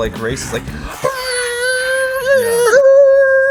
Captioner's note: cars racing